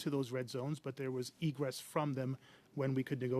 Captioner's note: speaking French